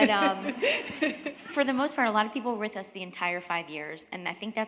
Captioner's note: chuckle